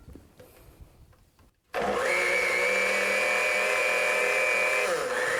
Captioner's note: blender revving